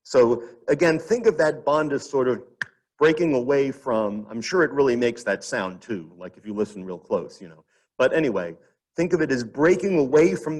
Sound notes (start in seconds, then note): 2.6 snaps fingers